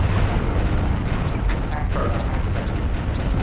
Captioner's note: pew-p; explosions; pew-pew-pew; explosions; pew--pew--pew